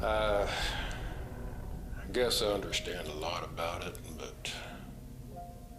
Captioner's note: sighing